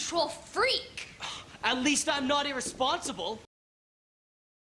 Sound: scoffs

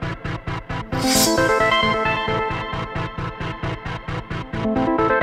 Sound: sword unsheathes

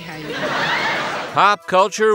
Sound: laughter

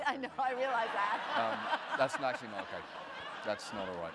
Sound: audience laughter

